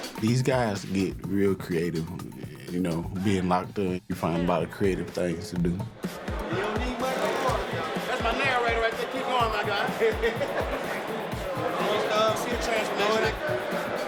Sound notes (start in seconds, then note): 10.3 laughs